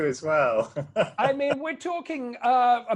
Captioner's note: laughs